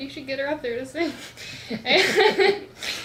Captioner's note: laughs